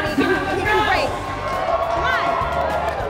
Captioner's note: cheering